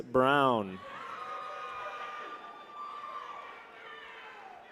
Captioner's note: people cheer